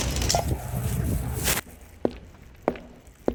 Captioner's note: plastic bag rustling; feet thumping